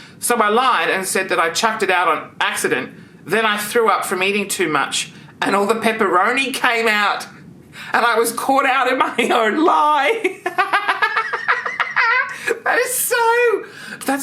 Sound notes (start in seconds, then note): 10.4 laughs